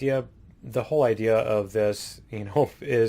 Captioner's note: none